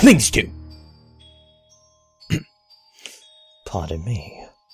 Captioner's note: pauses mid-sentence then clears throat